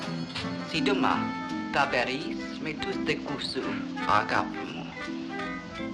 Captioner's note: speaking in a greek dialect